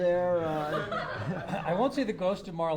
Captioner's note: laughter